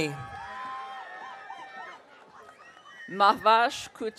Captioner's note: audience cheering